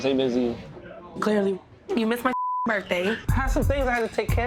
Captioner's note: beeps